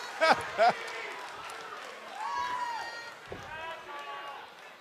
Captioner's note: laughter